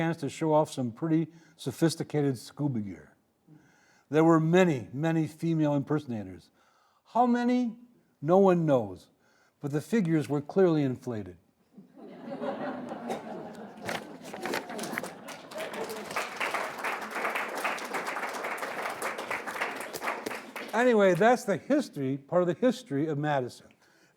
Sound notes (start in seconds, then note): 11.8 audience laughing; 15.8 audience applauding